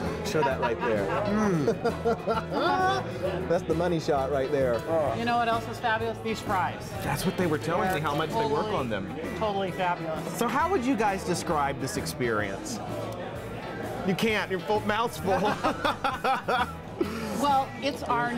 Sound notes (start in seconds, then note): 0.2 laughter; 15.3 laughter